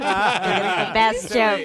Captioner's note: laughing